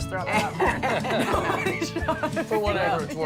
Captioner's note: laughter